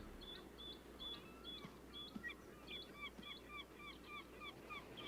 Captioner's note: birds chirping